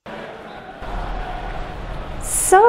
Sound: crowd sound from TV

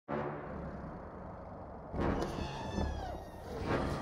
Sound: sarlacc growls, squeals

